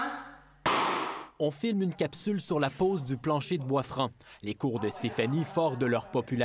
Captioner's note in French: coup de marteau